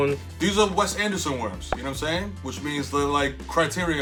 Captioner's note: pops